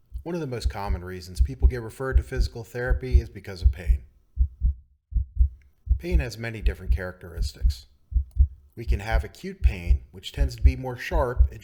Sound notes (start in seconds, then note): 5.8 heart beating